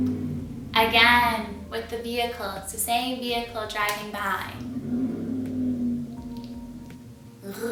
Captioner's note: mimicking car noises